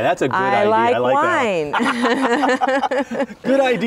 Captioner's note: laughing